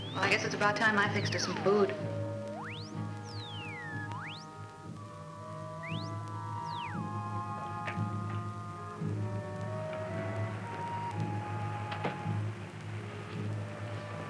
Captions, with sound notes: Well, I guess it's about time I fixed us some food. [sirens]